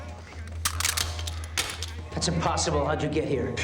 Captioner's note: clattering